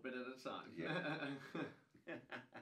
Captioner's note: laughing